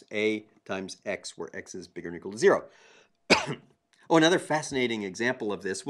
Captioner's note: cough